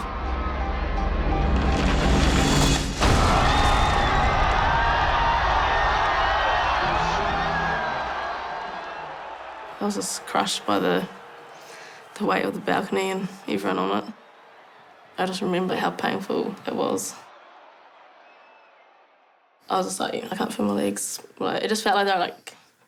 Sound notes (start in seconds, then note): 0.0 sinister music; 1.7 crack! people scream